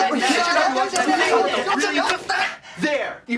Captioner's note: squabbling; grunting